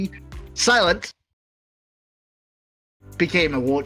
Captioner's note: silent Silence